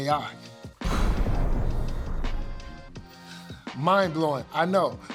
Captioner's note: explosion booming